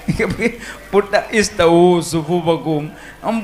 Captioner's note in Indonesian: tertawa